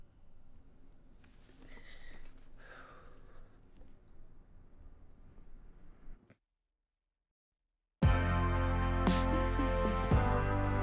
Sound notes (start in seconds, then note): 1.6 Benny breathes deeply